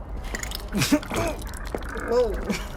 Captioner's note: the wet chattering of an alien passes